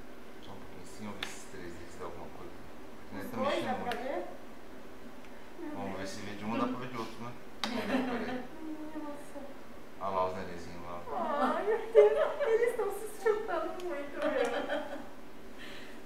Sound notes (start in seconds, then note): 7.8 laughs; 14.1 laughs